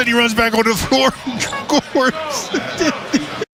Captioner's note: laughing